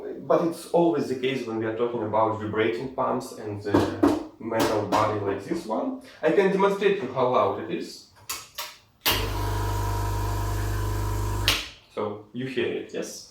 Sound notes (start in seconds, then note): 9.1 pump is working